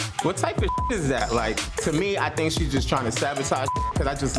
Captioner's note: beep; beep